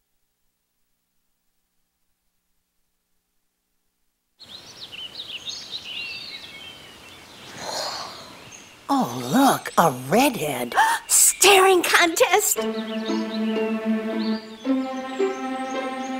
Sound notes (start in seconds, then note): 4.2 birds chirping; 10.8 gasps